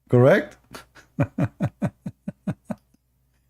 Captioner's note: Ketawa